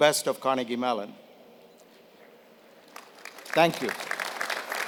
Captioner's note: applause